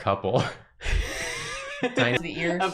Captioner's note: wheezes then giggles